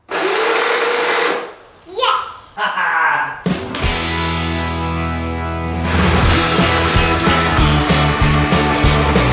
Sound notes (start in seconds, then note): 0.0 engine whirring; 1.9 laughing; 3.5 fast rock music